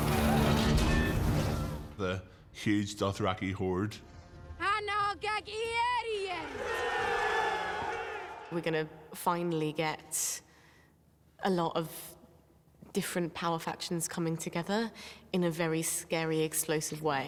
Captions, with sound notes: The huge Dothraki horde. (SPEAKS OWN LANGUAGE) (THEY SHOUT) We're gonna finally get a lot of different power factions coming together in a very scary explosive way.